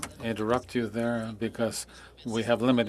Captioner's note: speaking French